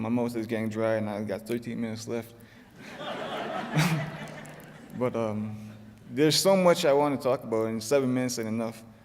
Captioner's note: laughter